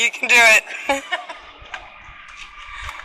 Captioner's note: laughs